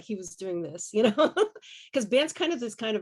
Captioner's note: laughs